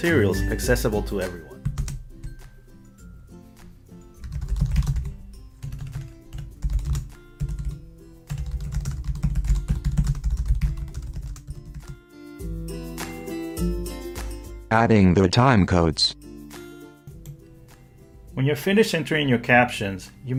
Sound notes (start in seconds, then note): 4.3 typing